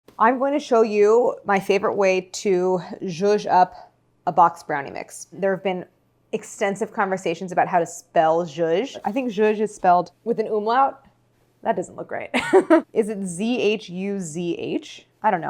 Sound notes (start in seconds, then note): 12.3 laughs